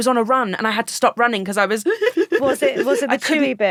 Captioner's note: sobbing